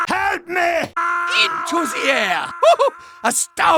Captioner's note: resumes screaming, fading out; chuckle